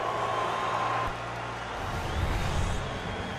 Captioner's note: cheering